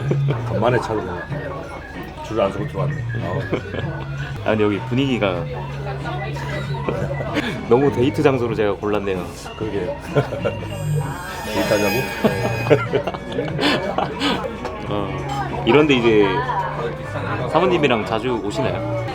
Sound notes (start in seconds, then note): 12.7 nervous laugh